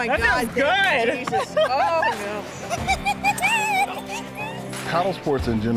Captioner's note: laughs and giggles